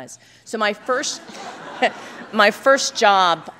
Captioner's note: laughter